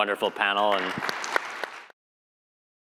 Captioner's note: applause